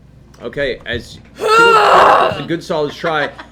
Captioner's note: grunts